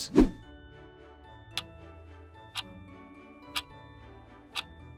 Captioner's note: clock ticking